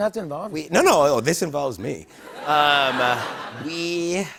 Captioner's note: laughter